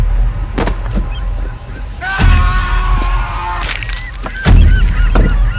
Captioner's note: slow dramatic music; gulls squawking; Mike screaming; gulls squawking